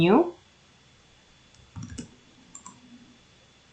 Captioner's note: clickity-click